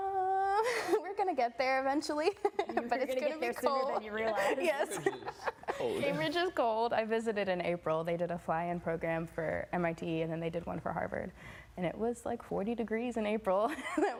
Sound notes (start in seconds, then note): 2.6 laughing